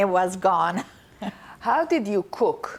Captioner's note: laughing